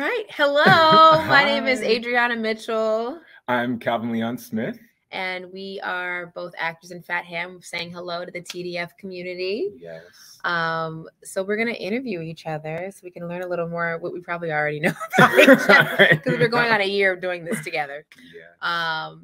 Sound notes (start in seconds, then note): 14.8 both laughing